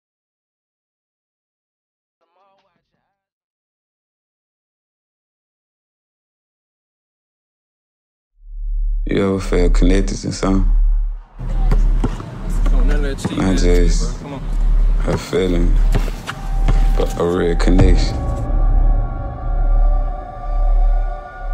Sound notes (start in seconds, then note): 11.4 ball thudding; 18.8 ominous music